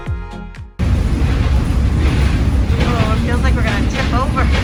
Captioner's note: upbeat music; train engine revving